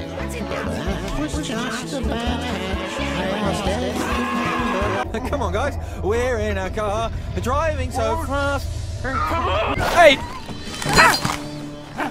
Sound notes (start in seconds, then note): 0.6 arguing; 1.2 distressed noises, yelling; 10.4 startled noise